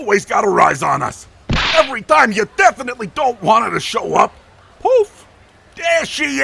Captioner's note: poof